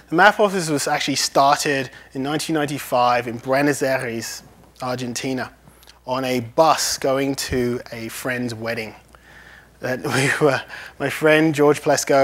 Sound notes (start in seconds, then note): 10.0 laughs